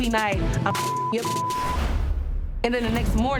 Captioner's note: beeps